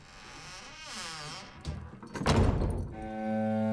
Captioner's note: closes door